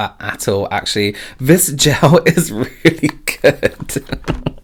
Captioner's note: laughs